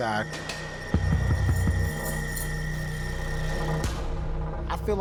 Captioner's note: keys jingling